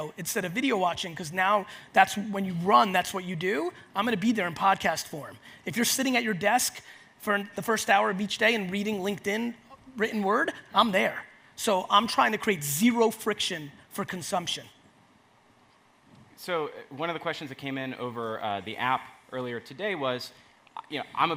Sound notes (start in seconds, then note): none